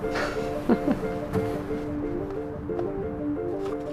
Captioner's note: laughing